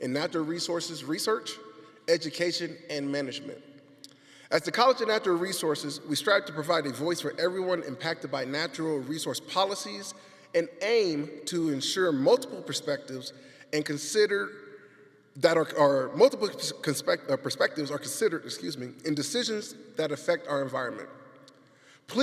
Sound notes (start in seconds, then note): none